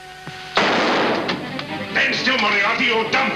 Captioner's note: gunshot